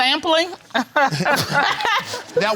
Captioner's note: laughter